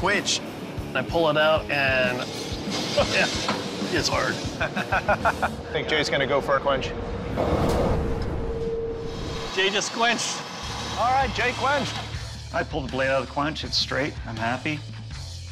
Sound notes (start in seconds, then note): 4.5 chuckles